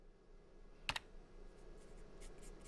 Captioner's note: keyboard clacks